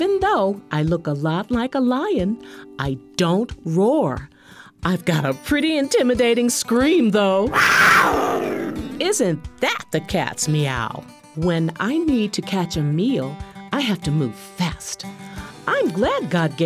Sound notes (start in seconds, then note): 7.4 scream